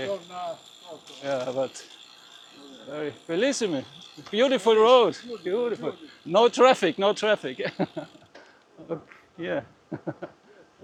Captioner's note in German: gelächter